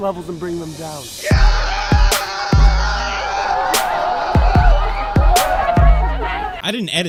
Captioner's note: screams like an idiot